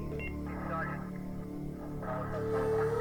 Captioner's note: police Radio